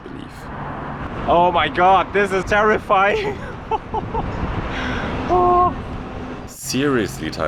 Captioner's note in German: hysterisches Lachen